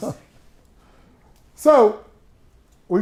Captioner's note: laughs